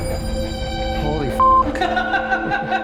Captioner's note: intense suspenseful music; beeping; crew laughs